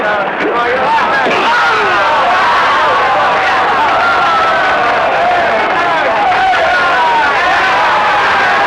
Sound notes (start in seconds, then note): 1.2 crying out; 1.2 whacking